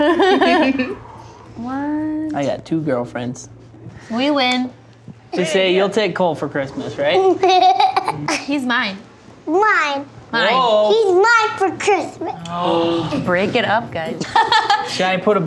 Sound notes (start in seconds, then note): 0.0 girls laughing; 7.2 laughing; 14.0 Chelsea laughing